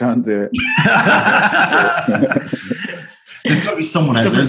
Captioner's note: laughter